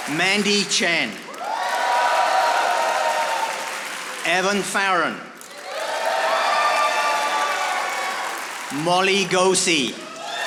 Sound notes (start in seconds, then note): 1.7 audience applauding; 5.3 audience applauding